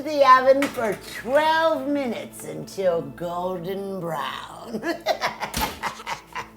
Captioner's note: laughs